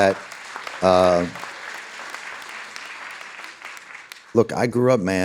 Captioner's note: audience applauding